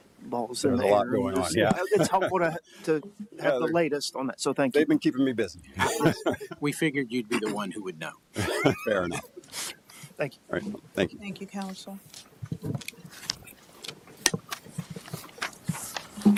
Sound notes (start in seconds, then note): 5.7 laughter